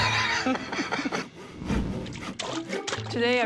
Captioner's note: laughs